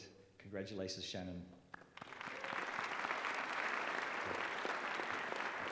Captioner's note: applause